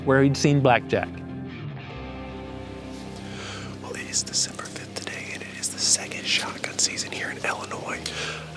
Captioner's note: whispering